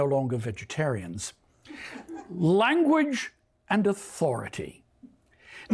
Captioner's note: laughter